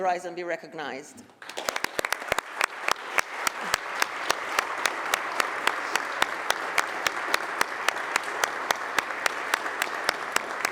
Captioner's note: applause